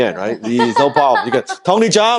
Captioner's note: laughs